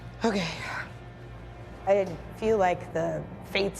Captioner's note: sighs